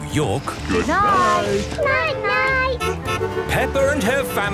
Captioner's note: honking